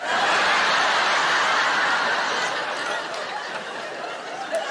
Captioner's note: audience laughing